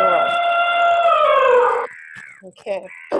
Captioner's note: elephant trumpeting